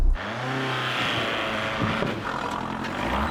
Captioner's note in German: Motor zieht an